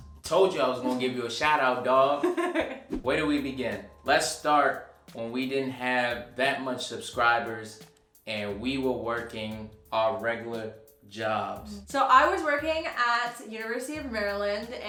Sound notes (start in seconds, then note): 2.2 laughing